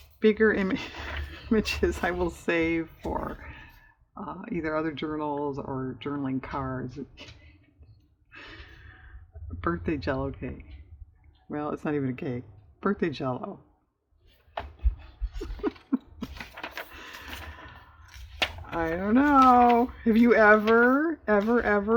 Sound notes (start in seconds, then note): 15.2 laughs